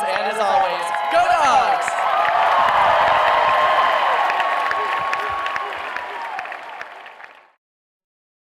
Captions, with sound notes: and as always, go Dawgs! (cheering and clapping)